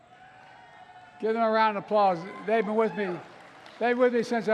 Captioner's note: applause